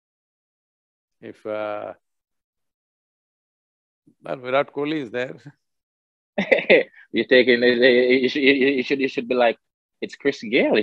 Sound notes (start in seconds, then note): 6.4 Chris Gayle laughs